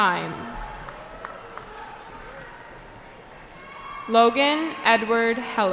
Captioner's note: cheering